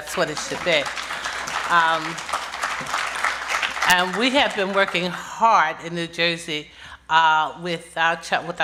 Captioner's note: applause